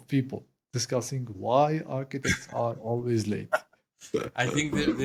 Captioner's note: laugh